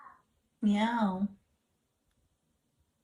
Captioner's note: Chaz meowing